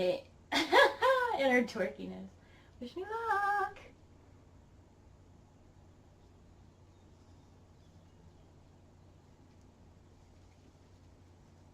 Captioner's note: laughs; laughs